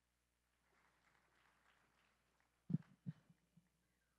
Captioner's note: audio drop